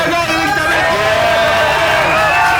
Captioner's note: applause